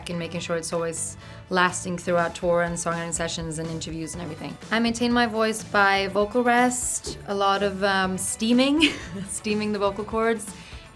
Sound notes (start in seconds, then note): 8.8 laughing